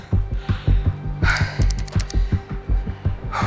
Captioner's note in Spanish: Sonido al marcar